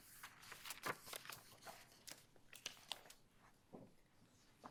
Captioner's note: papers shuffling